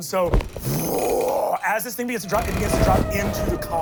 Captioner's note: roars